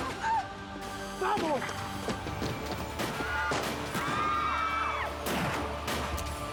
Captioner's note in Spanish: gritos